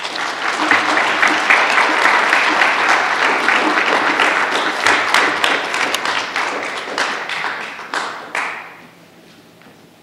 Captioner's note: applause